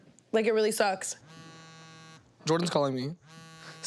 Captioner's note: buzzing